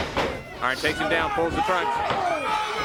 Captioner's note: crowd chatter